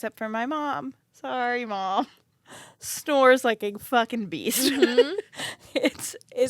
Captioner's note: laughs